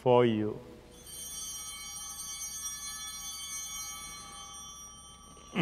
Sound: bells ringing

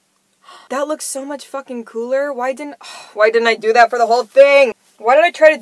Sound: scoff

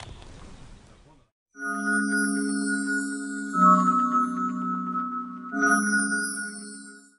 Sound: fairy dust sound effect

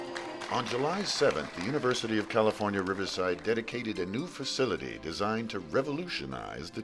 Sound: voiceover

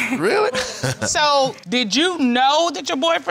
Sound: laughs

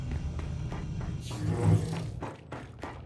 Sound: footsteps

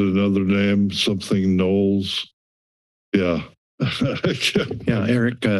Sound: laughter

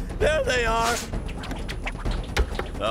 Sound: darts zipping

